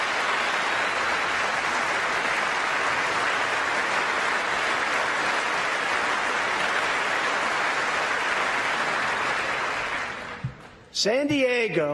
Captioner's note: applause